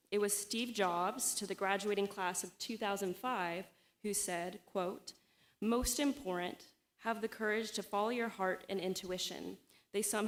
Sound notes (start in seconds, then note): none